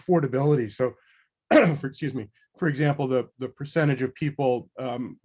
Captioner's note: coughs